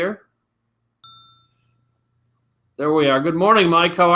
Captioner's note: computer chimes